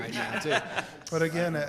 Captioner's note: people laughing